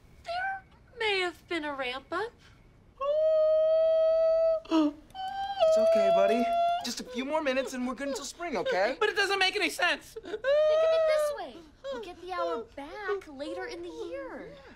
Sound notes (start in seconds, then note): 3.0 ABED shrieking